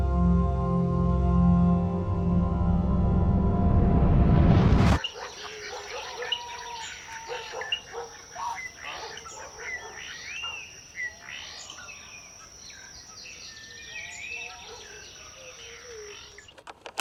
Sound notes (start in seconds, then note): 5.0 dog barking; 5.8 birds chirping